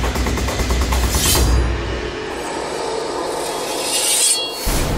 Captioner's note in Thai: เสียงกระบี่